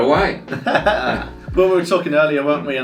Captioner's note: laughs